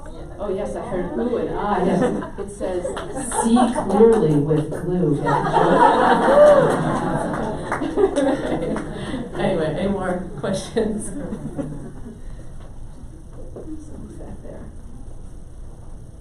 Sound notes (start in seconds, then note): 4.8 audience laughs; 5.5 cheering